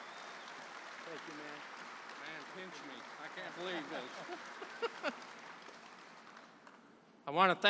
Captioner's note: applause